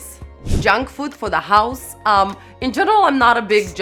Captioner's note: air whooshing